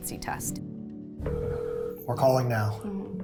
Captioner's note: phone ringing